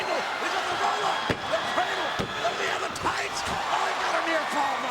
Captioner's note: mat slamming